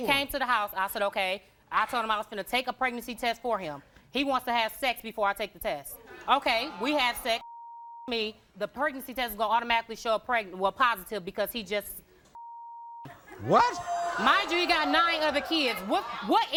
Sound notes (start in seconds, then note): 7.4 beep; 12.4 beep